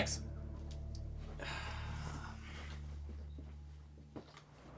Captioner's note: sighing